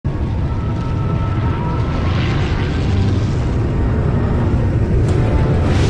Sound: propeller noices, music

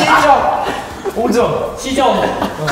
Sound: excited

